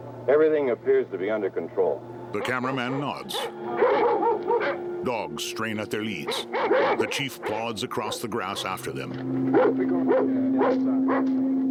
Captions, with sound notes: everything appears to be under control. [dogs barking aggressively] [indistinct chatter]